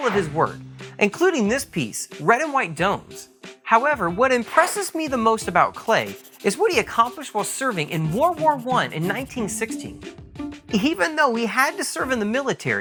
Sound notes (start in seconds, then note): 4.9 swish